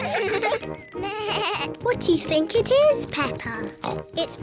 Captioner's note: bleats; oinks